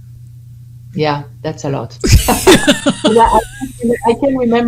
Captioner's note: laughter